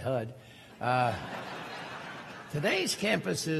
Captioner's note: crowd laughing